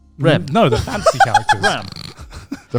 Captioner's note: laughs